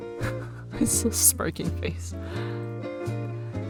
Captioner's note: laughs